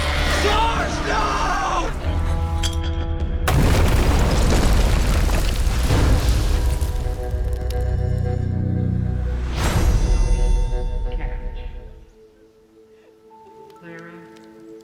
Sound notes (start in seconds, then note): 1.7 grenade clinks; 3.4 explosion; 6.8 tense music